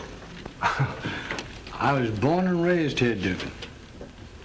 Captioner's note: chuckles